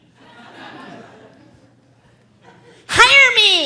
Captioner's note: audience laughing